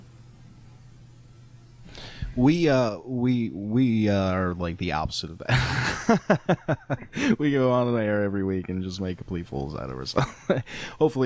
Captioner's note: laughing